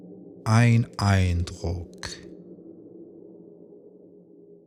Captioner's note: german